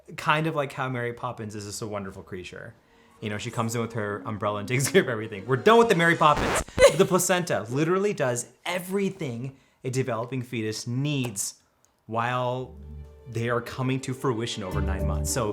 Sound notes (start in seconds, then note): 6.5 laughing